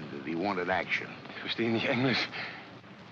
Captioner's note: speaking in German